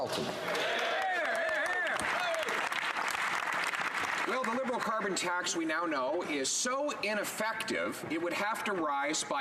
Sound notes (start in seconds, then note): 3.9 some Applause